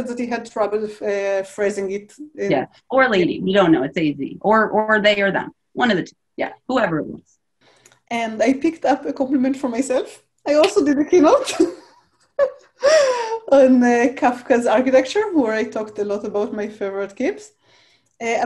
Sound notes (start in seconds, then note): 12.3 chuckles